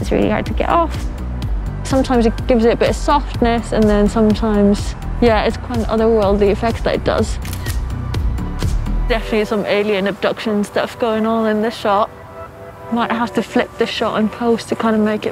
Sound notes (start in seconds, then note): 7.4 camera clicks